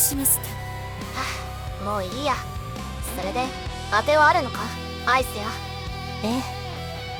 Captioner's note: sigh